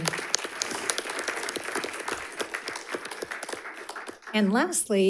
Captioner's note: audience applauds